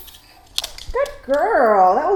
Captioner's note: click-click